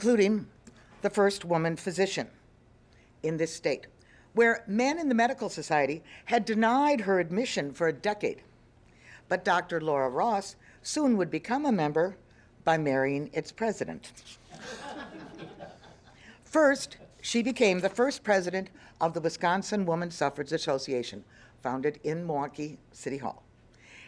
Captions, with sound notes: including the first woman physician in this state, where men in the medical society had denied her admission for a decade, but Dr. Laura Ross soon would become a member by marrying its president. [audience laughing] First, she became the first president of the Wisconsin Woman Suffrage Association, founded in Milwaukee City Hall.